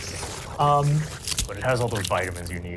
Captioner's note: snapping